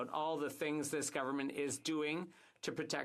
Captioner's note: speaking French